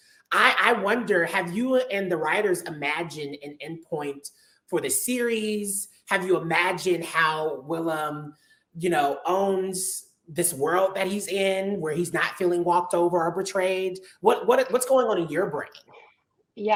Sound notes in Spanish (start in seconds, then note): none